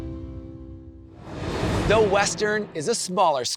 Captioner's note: transition whooshes